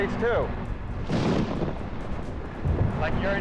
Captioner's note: loud thunder